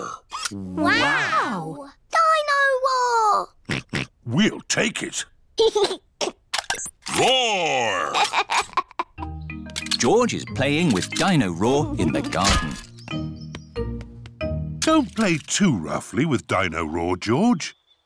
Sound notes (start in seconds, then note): 3.7 oinks; 5.4 giggles; 7.9 giggles